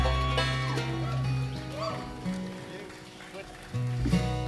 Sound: clapping

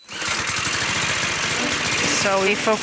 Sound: machine starts

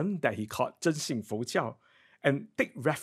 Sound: speaks in foreign language

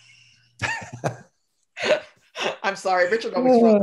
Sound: laughing

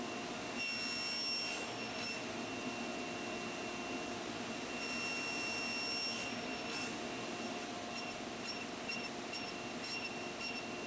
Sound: table saw running

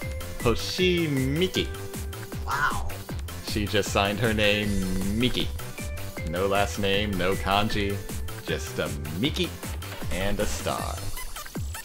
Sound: yawn

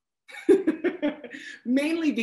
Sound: laughs

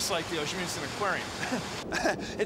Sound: laughs

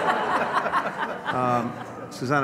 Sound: laughter

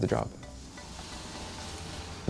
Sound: window sound

